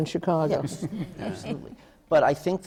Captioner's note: laughter